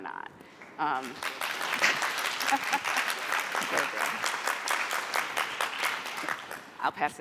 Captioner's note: applause; laughter